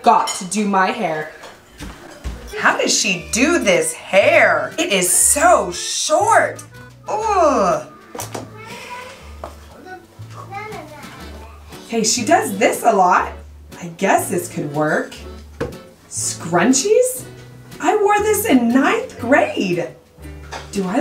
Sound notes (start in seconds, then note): 7.0 groans